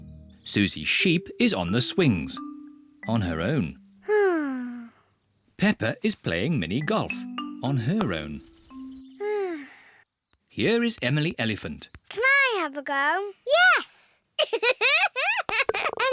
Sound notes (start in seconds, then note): 4.1 sighs; 9.2 sighs; 14.4 giggling